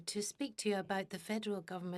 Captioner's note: speaking French